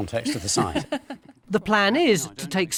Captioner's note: laughing